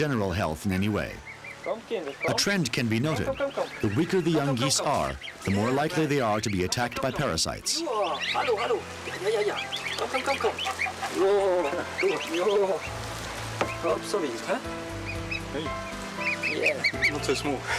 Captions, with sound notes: research project. He wants to find out whether the infestation of ticks harms the animal's general health in any way. A trend can be noted. The weaker the young geese are, the more likely they are to be attacked by parasites. (speaking in foreign language) (baby geese chirping)